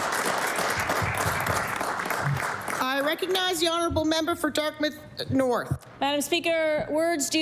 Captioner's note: applause